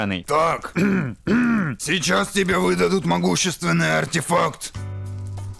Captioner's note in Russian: Кашель; Сильный кашель